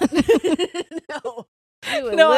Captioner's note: laughing